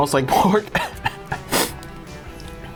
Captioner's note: coughs; sniffs